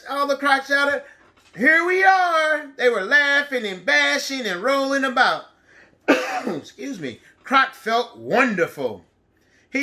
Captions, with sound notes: All the crocs shouted, "Here we are." They were laughing and bashing and rolling about, (coughs) excuse me. Croc felt wonderful,